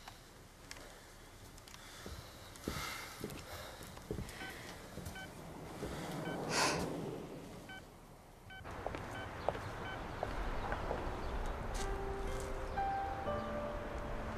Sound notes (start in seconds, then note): 4.4 beeps of dialling; 5.8 sighing